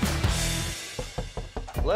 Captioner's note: knocking